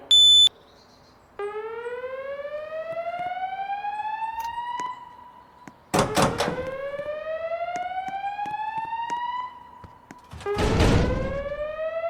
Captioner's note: fire alarms sounding